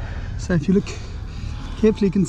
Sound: accented exasperated man

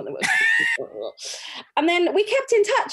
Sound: laughs

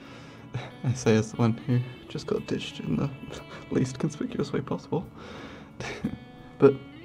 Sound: laughs

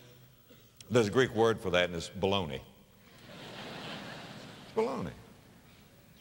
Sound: audience laughter

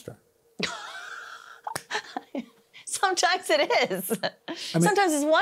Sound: laughs

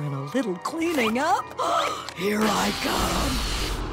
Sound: gasping

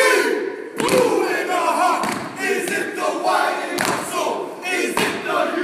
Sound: chanting

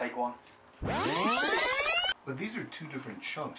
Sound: audio tape fast forwarding

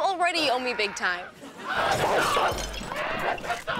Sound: screaming, barking

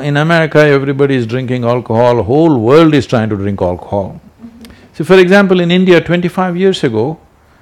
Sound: few laugh

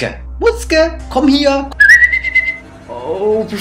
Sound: whistles

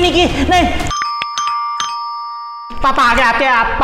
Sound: door bell rings

